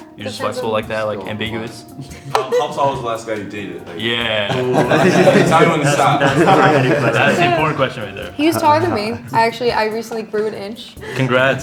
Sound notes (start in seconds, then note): 2.0 laughing; 3.6 all chattering